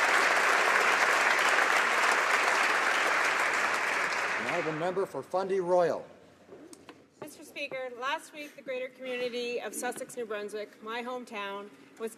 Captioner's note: applause